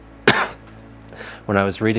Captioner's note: coughs